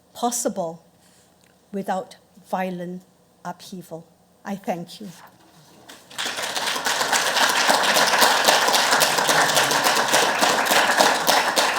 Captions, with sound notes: possible without violent upheaval." I thank you. (audience applauds)